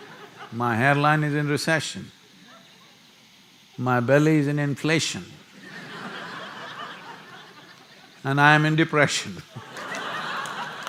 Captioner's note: laughter; laughter; laughter/Applause